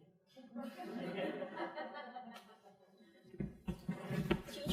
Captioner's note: crowd laughing